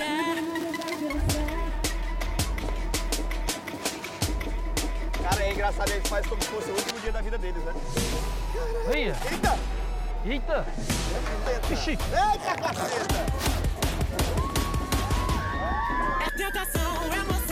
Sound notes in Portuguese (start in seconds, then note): 14.0 multidao grita